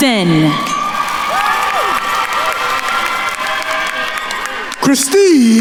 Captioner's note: attendees cheering and applauding